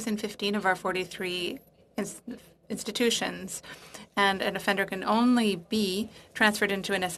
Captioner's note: speaking French